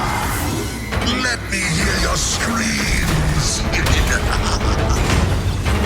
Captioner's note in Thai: เสียงหัวเราะโหดเหี้ยม